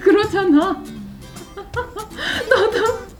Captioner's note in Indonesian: tertawa